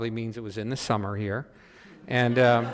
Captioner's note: audience laughing